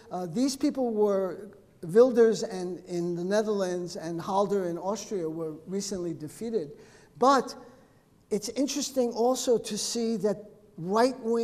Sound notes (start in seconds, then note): none